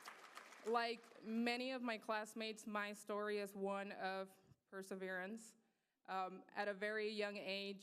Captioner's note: applause